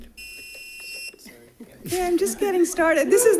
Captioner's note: tone beeps